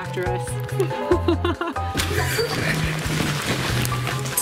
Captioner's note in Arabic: يضحك